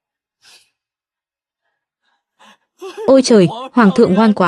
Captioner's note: khịt mũi